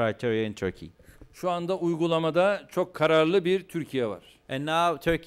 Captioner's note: non-english speech